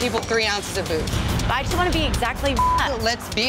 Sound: beep

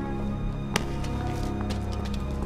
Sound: smack

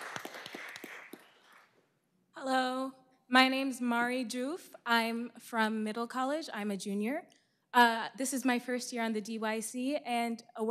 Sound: applause

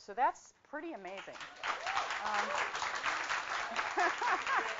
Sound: applause

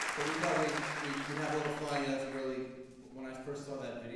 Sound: applause drowns speech

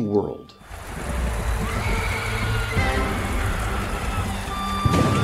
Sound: victims screaming; dramatic music

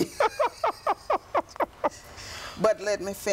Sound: laughter

